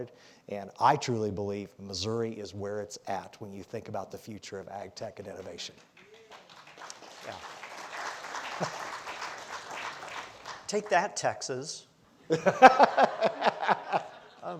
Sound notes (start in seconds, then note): 5.9 audience applauds; 12.2 all laughing